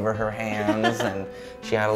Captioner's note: giggle